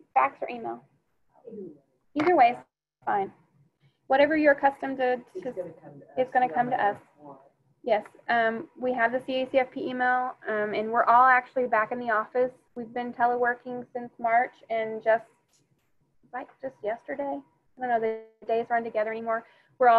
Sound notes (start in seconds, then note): 7.6 student speaking faintly